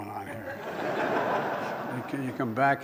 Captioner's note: laughter